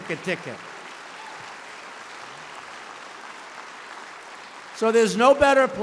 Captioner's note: applause